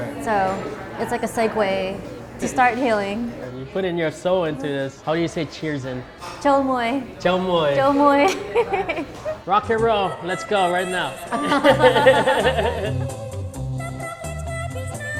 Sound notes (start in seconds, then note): 7.7 laughs; 12.6 cambodian rock and roll